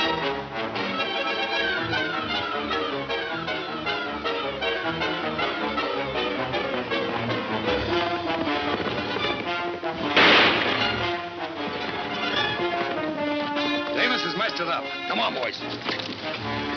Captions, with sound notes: (horses gallop) (gunshot) - Davis has messed it up. Come on, boys.